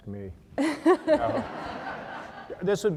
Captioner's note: laughter